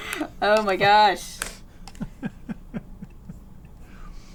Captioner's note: laughs